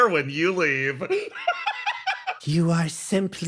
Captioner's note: laugh